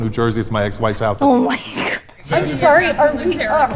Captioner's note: laughs